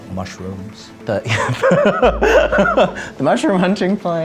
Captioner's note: laughter